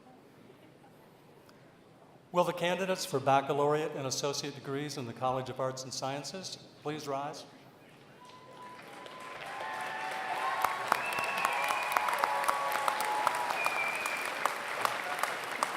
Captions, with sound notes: Will the candidates for Baccalaureate and Associate degrees in the College of Arts and Sciences please rise? [APPLAUSE]